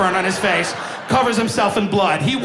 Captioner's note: audience laughing